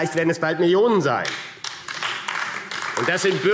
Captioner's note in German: Beifall AfD